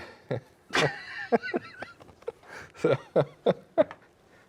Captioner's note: both laughing